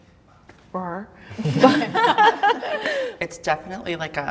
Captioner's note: everybody laughs